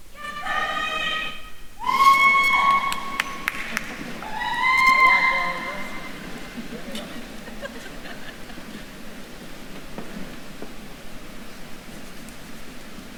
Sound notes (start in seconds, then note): 4.1 attendee cheering; 7.3 faculty members laugh